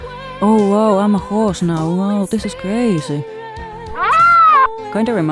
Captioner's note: rhino screech